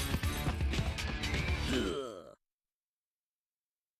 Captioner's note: Daffy grunting